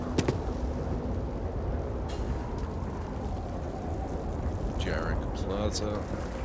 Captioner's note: sounds Of Guns